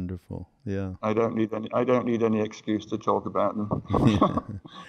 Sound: laughter

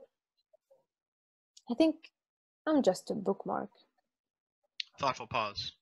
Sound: slight pause

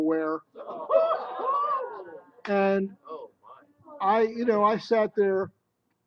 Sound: exclamations

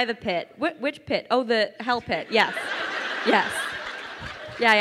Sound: crowd laughing

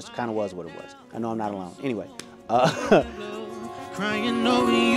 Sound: laughs

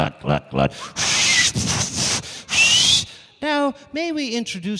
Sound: making whistling noise

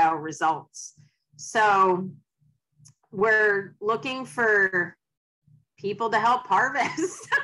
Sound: laughs

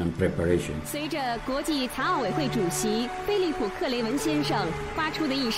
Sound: woman speaking in foreign language

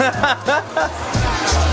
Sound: laughter; upbeat jazzy music

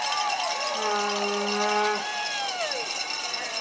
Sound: cheering and applause; horn blowing

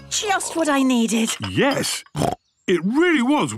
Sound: snorts

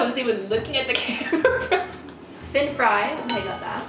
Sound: laughs

